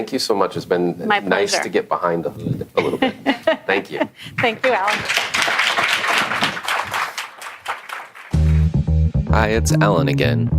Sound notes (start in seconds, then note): 4.4 clapping